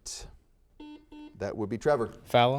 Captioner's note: series of beeps